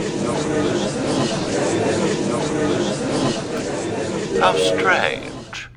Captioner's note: gallery chattering